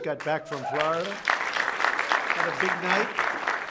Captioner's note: applause